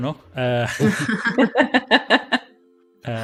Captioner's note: laughter